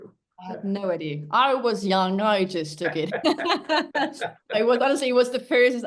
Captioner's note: laughs